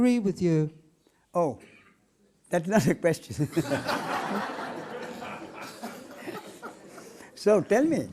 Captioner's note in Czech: smích